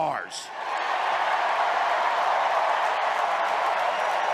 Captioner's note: crowd cheering